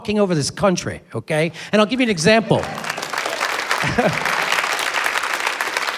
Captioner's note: applause